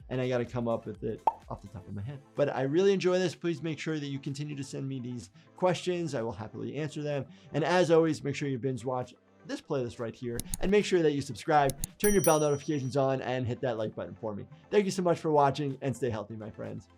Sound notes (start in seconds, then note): 10.3 mouse clicking; 11.6 bell ringing